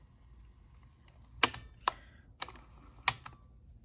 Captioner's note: even MORE clicking and whirring